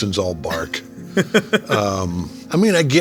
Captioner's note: laughing